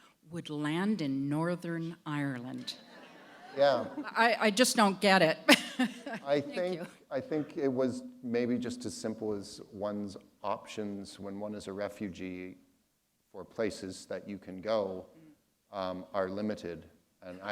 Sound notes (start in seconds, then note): 2.7 laughter; 5.4 chuckle